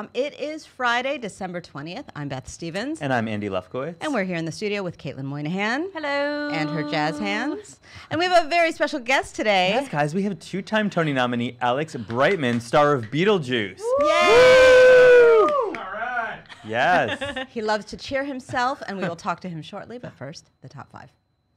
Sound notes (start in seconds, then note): 13.8 cheering